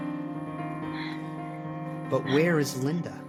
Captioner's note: Zoey pants